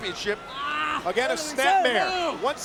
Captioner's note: Tajiri shouts